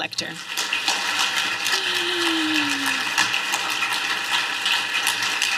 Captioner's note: applause